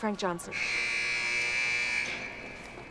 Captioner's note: gate buzzing